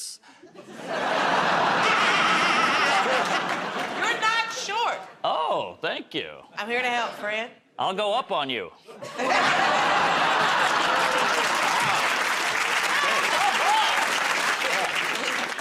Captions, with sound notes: You're all a bunch of height supremacists. -It's true. -You're not short. -Oh, thank you. -I'm here to help, friend. -I'll go up on you. [ Laughter ] [ Applause ]